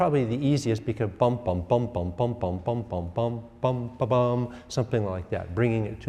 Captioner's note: instructor vocalizing